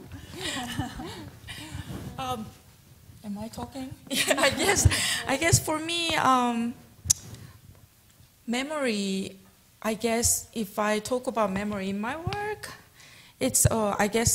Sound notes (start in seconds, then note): 0.1 laughter